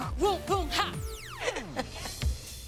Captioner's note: laughs